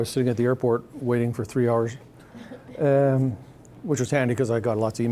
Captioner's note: scattered chuckling